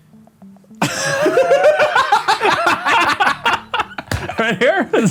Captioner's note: laugh